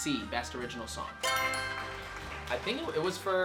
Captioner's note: answer board chimes; crowd claps